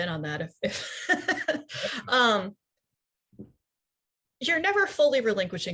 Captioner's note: laughing